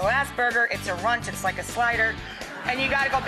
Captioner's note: audience laughing